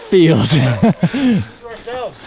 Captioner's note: laughing